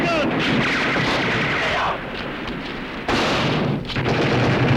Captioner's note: gunfire